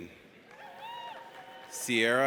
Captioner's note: audience cheers